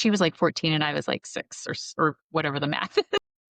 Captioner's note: laughter